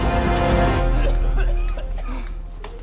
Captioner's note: coughing